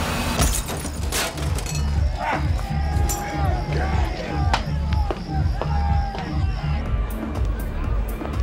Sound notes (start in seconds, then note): 0.4 glass smashing; 1.5 people yelling